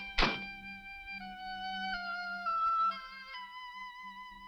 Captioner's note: door thuds